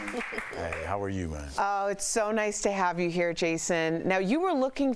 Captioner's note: applause